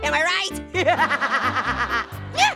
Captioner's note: Orange laughs